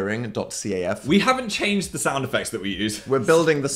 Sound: laughs

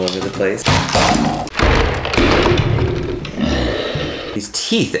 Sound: plastic smashing

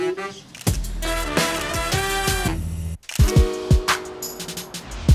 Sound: camera shutter clicking

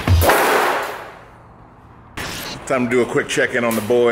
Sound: sheet metal clanging

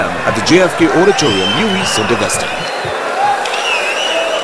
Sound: wild applause and cheering for 22 seconds

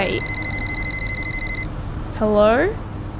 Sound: phone ringing

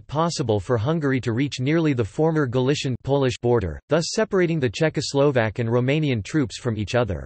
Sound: Polish

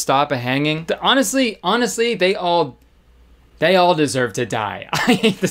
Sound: laughing

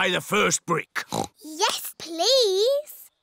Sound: oinks

